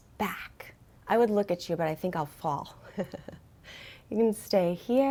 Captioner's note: chuckles